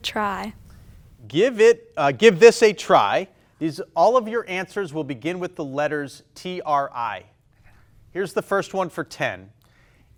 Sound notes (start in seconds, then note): none